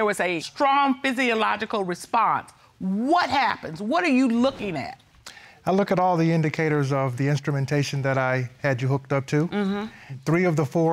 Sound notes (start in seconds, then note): none